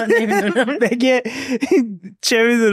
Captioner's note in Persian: خنده